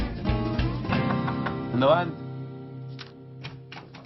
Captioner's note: knock on the door